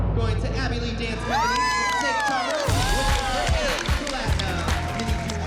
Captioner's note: cheering and applause